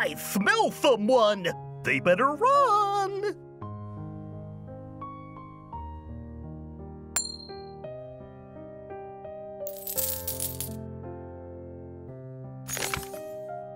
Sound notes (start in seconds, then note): 4.5 gentle piano music; 9.6 coins clinking